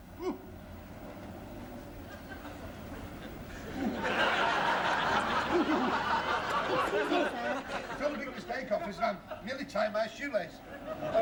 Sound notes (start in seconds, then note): 2.0 laughter